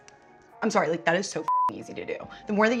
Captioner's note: beep